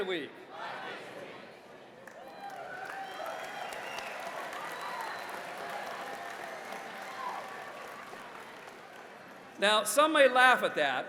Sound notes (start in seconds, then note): 2.0 applause